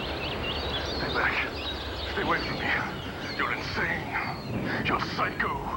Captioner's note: birds screech